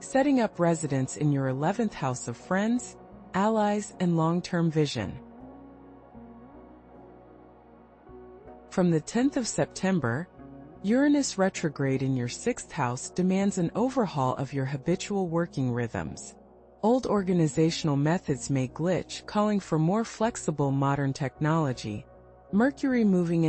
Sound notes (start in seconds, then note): 6.8 pause